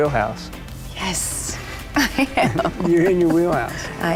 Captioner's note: laughs